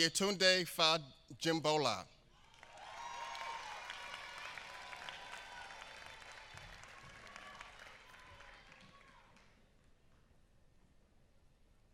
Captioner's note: applause